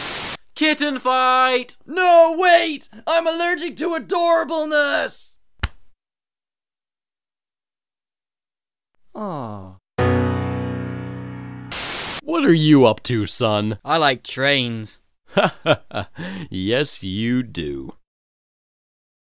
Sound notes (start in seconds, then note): 15.3 laughs